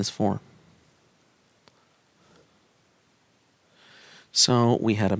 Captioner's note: no Speech Detected